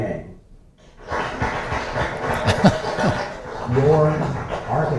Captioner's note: applause